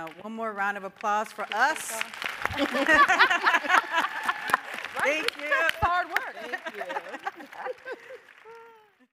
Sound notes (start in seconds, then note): 1.3 audience applauding; 2.3 panelists laughing